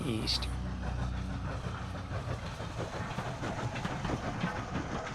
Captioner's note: train chugging